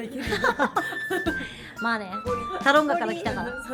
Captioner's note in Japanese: 笑い